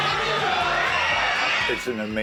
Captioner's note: people screaming